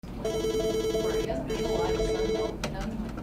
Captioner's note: phones ringing